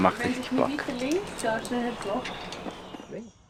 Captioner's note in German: auf Schweizerdeutsch